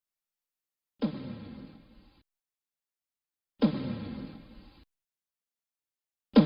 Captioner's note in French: pas lourds